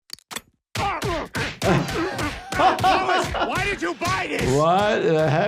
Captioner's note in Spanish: golpes sordos